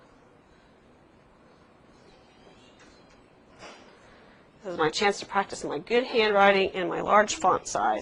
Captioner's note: silence